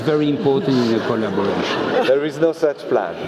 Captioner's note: laugh